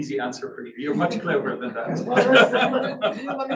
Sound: laughs

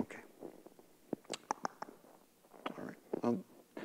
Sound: nervous Clicks

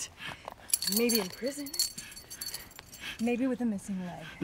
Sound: belt clattering

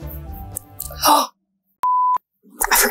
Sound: gasps; beeping

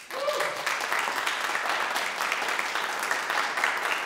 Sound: audience applauding

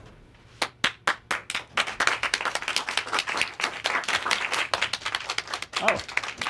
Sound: clapping

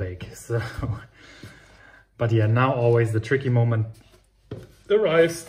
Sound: chuckles

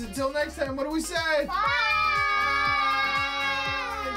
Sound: in Unison

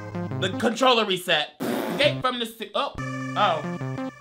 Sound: mysterious music; blows raspberries; mysterious music

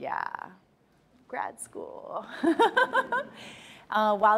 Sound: laughs

